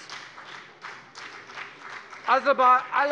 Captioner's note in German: Beifall bei der FDP